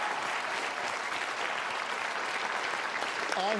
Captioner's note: applause